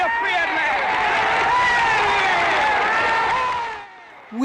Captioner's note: audience applauding